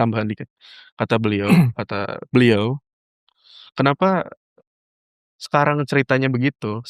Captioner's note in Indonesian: berdehem